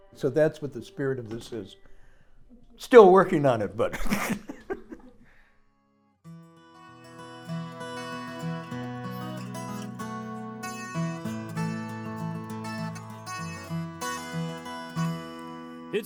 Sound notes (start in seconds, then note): 3.9 laughing; 6.2 light guitar music